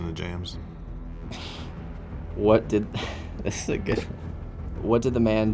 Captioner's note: chuckles